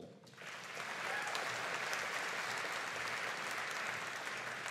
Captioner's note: audience applauding